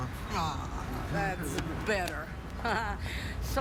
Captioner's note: laughs